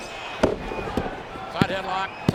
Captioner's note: body thuds